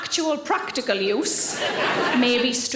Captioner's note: audience laughing